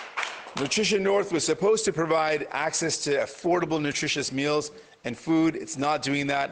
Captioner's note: applause